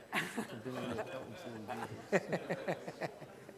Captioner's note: panel laughs